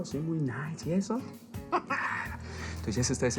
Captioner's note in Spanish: Ríe